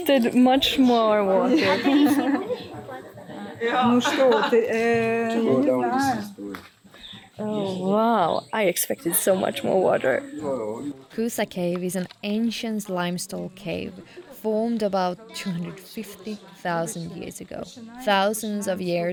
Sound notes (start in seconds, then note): 1.4 laughs; 5.0 group chattering; 5.0 speaking foreign language